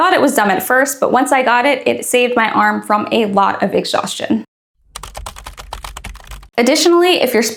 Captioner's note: keyboard Clacking